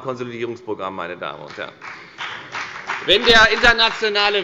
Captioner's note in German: Beifall bei der FDP